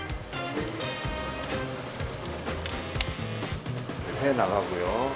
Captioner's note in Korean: 자글자글